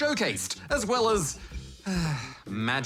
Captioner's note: sighs